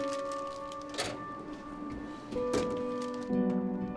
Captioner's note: drawer rattling; expressive piano over uneasy electronic music